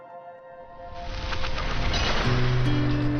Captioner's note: water rushing; slow guitar music